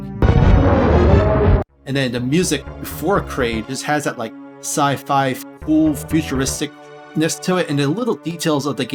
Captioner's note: Kraid roars